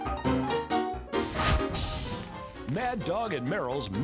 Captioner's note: fire grills